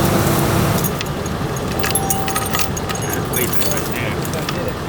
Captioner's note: chains rattling